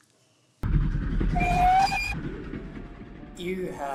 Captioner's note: sound of a train approaching